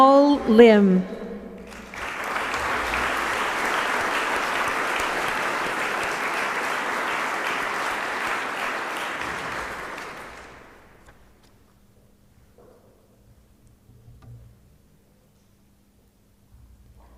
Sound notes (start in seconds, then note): 4.0 applause